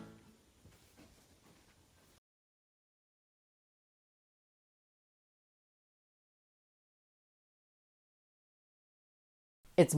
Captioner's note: silence